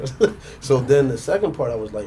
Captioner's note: laughing